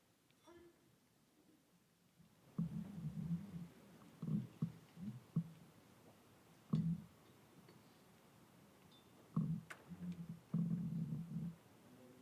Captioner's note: silence